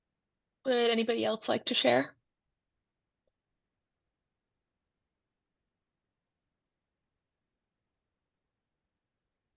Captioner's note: silence